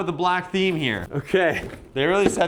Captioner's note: laughing